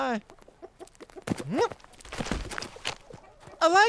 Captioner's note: quick steps crunching; steps halting; Abner grunts